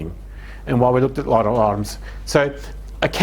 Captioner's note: speaking in heavy accent